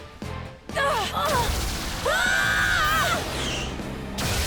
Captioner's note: both scream